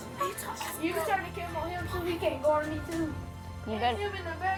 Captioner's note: kids jabbering